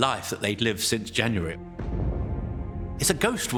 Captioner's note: bombs thud